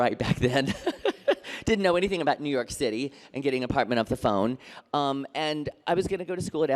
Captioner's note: laughter